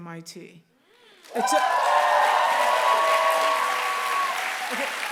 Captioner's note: cheer